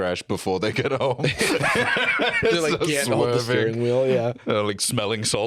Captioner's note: laughs